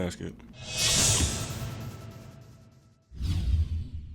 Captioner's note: whooshes